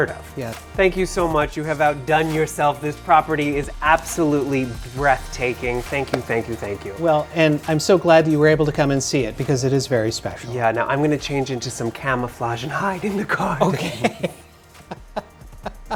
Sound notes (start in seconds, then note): 14.1 laughs